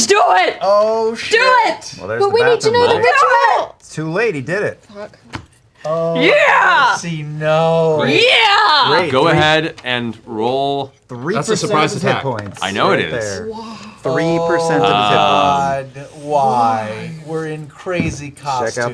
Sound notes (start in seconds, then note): 5.7 yelling